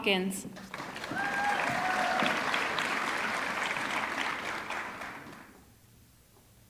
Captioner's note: audience clapping; audience cheering